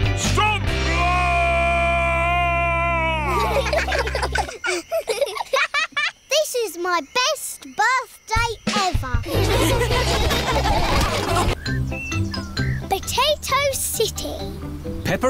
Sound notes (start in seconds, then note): 3.2 children giggle; 9.2 all laughing